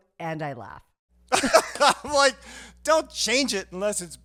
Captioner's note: laughing